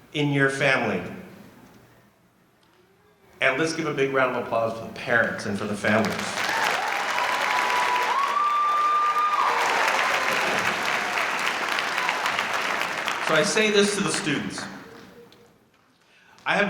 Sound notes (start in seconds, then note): 6.1 audience cheering